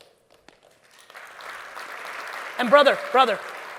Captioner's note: audience applauds